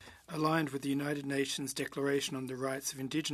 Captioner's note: speaking French